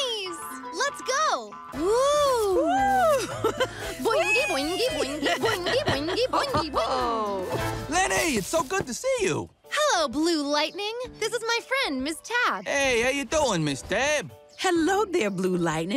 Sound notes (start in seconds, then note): 5.0 Ms. Tab chuckles